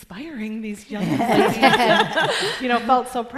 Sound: laughter

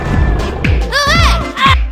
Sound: in demon tone

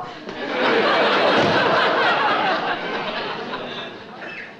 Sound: audience laughs

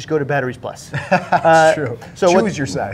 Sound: laughs

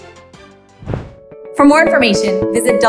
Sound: whooshing

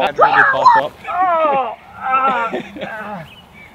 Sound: groans

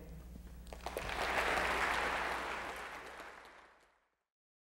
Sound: applause

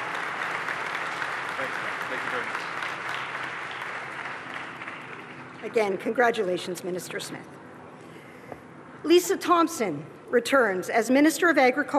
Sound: applause

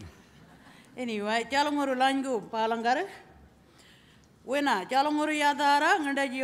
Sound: speaking aboriginal language

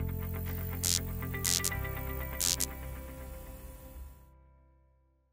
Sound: electricity buzzing

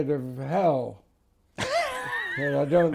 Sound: laughs

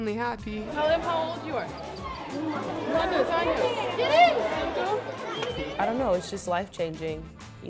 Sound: speaks Spanish

